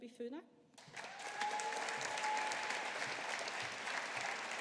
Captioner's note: audience applauding